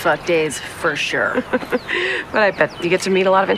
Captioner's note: laughs